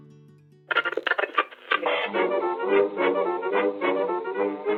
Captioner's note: radio tuning